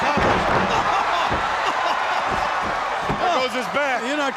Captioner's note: crowd cheering